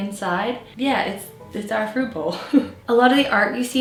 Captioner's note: laughs